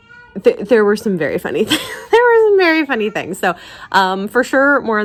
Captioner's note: laugh